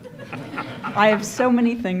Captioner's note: audience chuckling